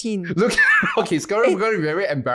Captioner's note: laughing